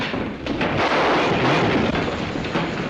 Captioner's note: gunshots